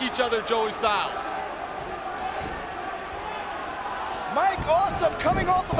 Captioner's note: crowd chattering